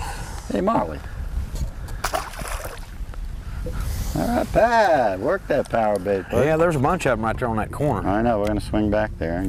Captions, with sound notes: Hey Marely [splash] alright Pat work that power bait yeah there's a bunch of them right there on that corner I know we are going to swing back there